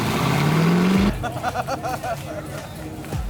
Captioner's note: laughing